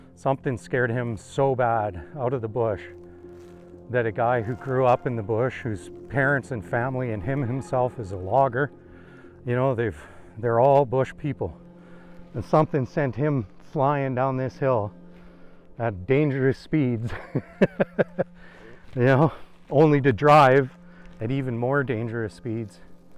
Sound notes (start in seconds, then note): 17.0 chuckles